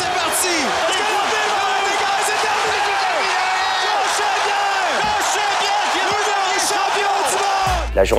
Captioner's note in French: acclamations